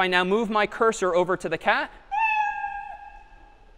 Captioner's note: meow